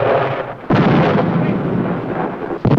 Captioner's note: explosion